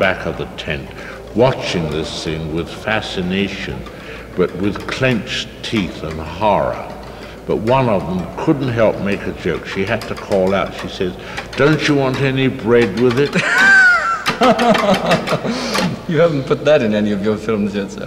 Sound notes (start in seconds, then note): 13.2 laughing